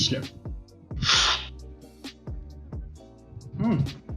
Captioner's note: slurping sound